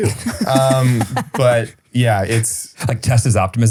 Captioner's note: laughs